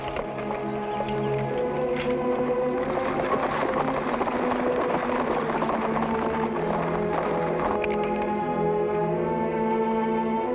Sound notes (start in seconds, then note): 1.8 suspenseful music; 3.4 horse hooves patter; 3.4 suspenseful music